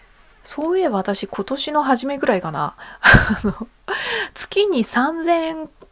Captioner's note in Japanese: 笑い